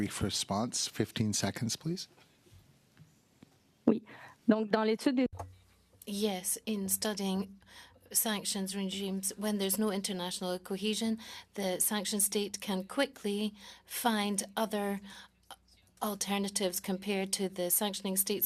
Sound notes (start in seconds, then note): 9.7 speaking French